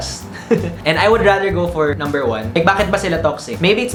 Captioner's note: chuckles